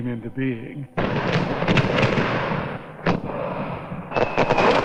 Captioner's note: explosion